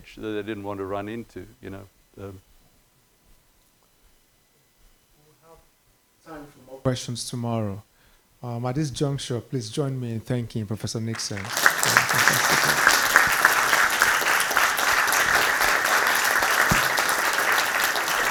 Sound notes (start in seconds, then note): 11.1 audience applauding